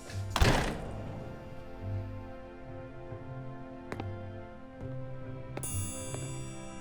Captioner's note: door slamming; gentle music continues; footsteps plodding